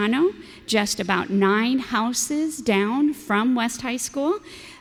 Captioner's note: none